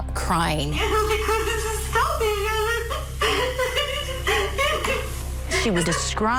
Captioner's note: sobbing Uncontrollably